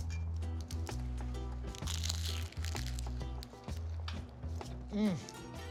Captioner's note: phyllo crunches